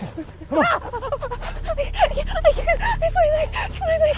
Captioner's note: Andrea screams